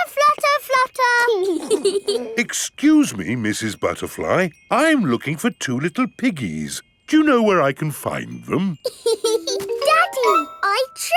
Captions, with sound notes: Flutter, flutter, flutter. (BOTH GIGGLING) Excuse me, Mrs. Butterfly, I'm looking for two little piggies. Do you know where I can find them? (LAUGHS) Daddy!